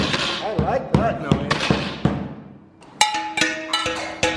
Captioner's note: dishes bang; dishes bang